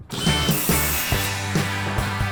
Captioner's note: rock music; sawing wood